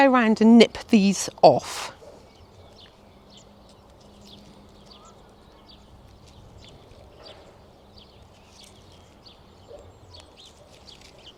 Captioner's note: spring birds chirping in the background. General spring countryside sounds